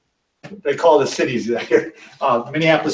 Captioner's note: chuckles